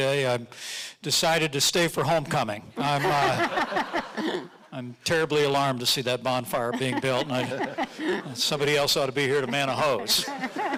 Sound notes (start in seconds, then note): 2.8 audience laughing